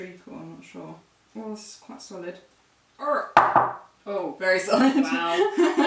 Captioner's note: knocks on table with the cake